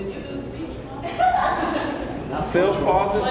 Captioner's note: laughing